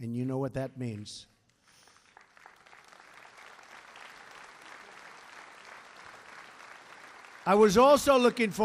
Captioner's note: applause